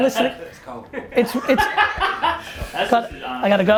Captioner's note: laughter